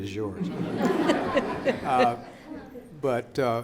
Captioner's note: audience laughs